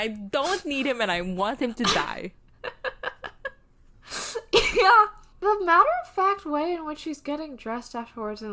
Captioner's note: laughs